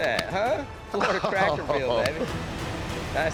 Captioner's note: laughter